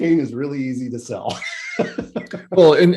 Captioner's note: laughs